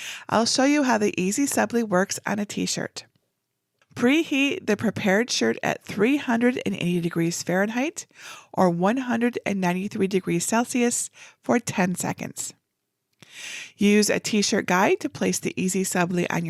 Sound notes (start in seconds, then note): none